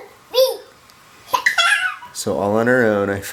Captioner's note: mumbling and laughing